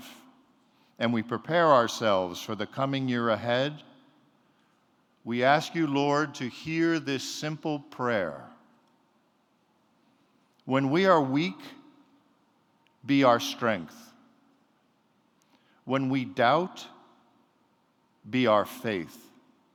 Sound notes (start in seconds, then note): none